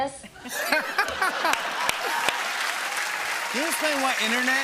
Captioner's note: laughter